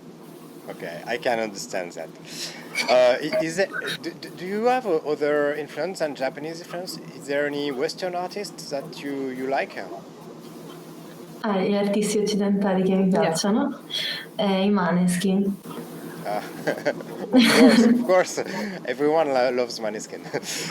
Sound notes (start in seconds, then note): 10.4 speaks Italian; 16.0 laughs